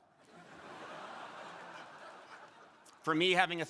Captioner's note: crowd laughing